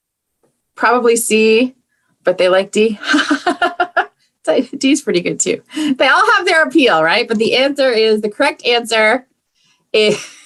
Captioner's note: laughs